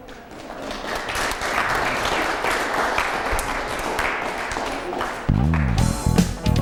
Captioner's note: applause; closing music